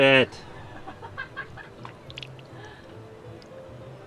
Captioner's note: laughing